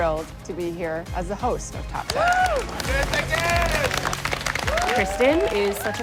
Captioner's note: all cheering